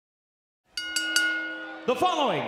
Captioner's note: bell rings